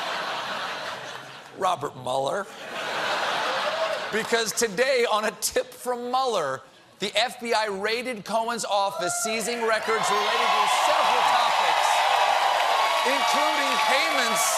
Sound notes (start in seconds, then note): 2.5 laughter